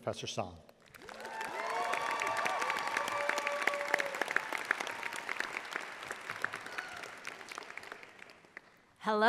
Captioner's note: audience applauding